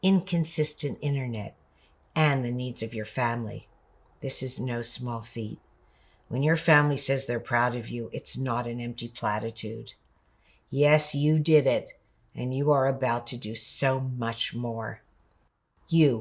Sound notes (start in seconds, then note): none